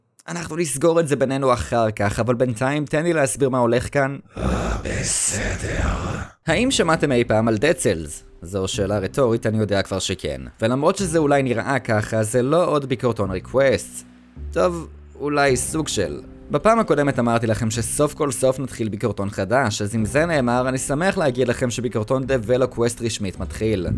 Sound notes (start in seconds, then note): 4.3 moans